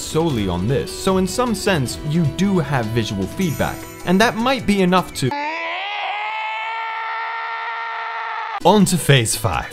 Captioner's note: gut-wrenching Screech